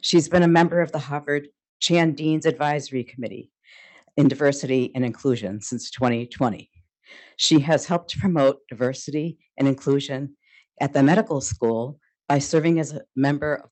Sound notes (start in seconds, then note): none